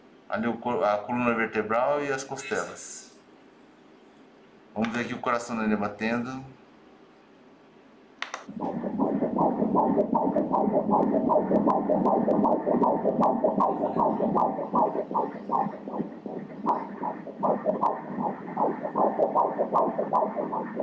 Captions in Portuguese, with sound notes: ali a coluna vertebral e as costelas vamos ver aqui o coração do bebê batendo [BATIMENTOS CARDÍACOS]